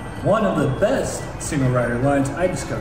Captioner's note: none